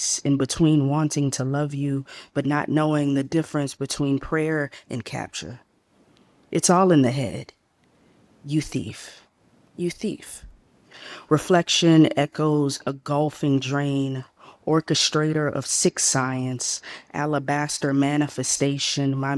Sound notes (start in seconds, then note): none